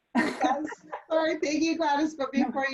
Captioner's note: laughs